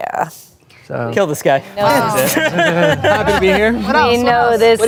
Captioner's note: everyone laughs